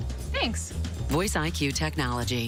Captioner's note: low, gruff